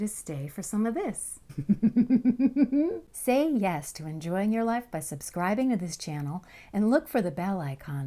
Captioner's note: laughter